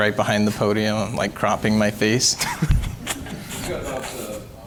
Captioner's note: laughs